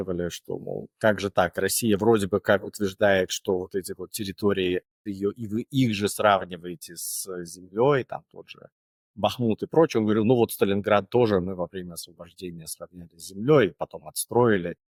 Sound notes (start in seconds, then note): 4.1 Ukrainian